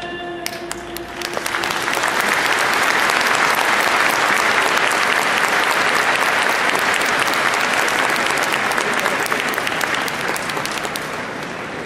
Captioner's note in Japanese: 拍手